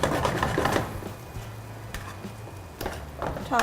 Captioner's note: pan on stove